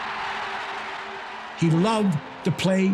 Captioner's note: crowd cheering